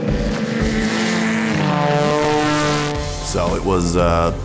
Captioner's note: plane engine roaring